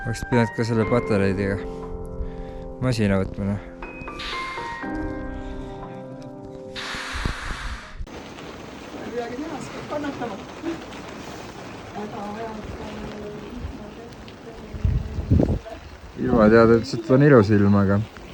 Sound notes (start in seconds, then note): 3.7 manual blower